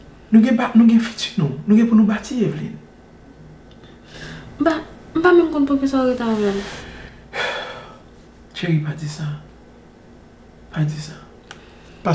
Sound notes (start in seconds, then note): 7.3 sighs